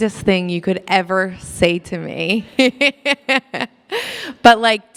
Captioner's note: laughs